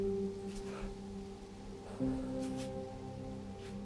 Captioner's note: Arawn exhaling